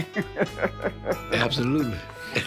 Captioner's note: laughs